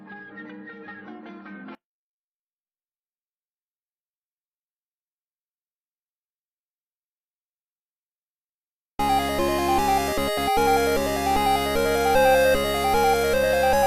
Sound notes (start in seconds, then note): 3.5 silence; 9.0 8-bit video game music playing